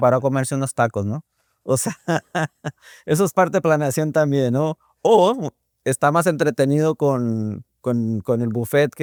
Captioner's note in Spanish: risas